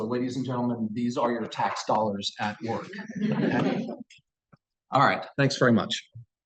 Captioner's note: laughter